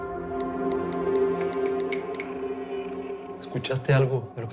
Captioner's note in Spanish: Chasquidos